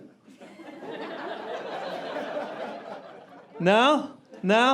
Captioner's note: audience laughing